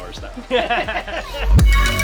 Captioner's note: group laughing; upbeat music